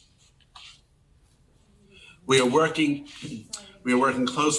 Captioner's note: people murmuring